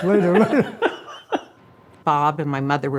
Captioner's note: laughing; family laughs